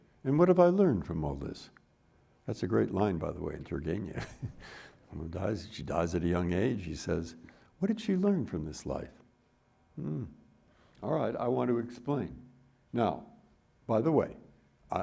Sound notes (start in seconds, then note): 4.0 chuckles